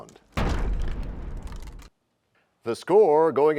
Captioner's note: crashing sound